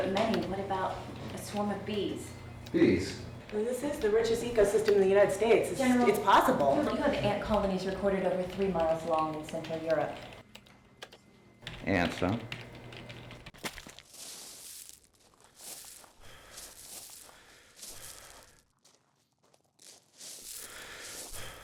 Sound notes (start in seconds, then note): 16.0 breathing heavily